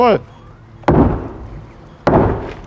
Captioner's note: loud knocking